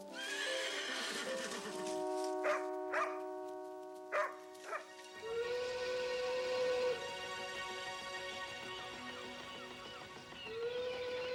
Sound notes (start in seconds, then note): 0.1 horse whinnies; 2.9 Nero barking; 5.3 whistle toots